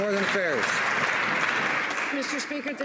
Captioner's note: some Applause